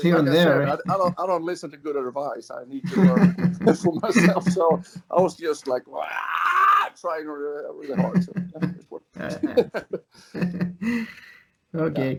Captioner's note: laughs